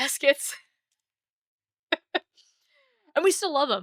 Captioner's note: laughs